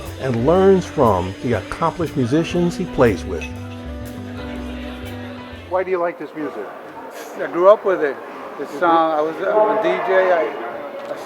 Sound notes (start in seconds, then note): 4.1 people chattering